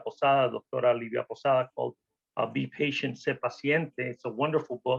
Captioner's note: spanish